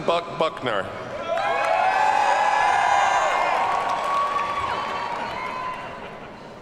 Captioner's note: audience cheers and applauds